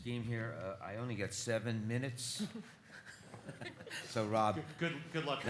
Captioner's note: laughs